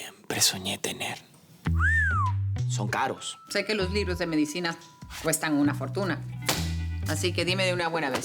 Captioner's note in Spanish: Silbidos